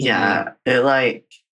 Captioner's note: laughs